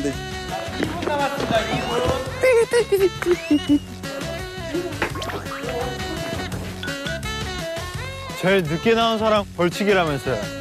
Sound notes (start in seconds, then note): 5.5 running barefoot